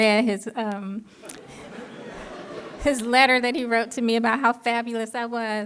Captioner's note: laughter